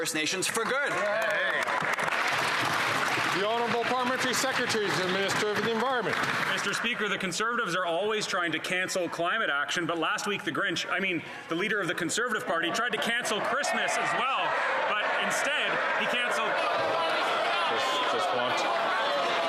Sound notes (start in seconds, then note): 7.2 some Applause